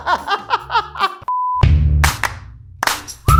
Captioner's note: laughing; beep; upbeat music